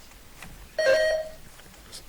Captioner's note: buzzer dings